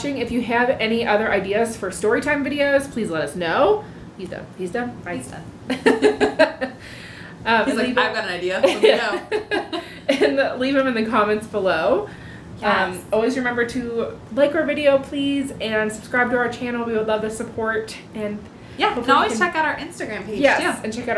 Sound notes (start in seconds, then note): 8.3 laughter